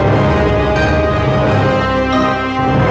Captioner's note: none